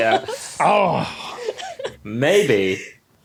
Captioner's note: giggle